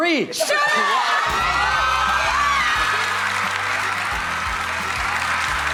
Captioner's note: audience cheering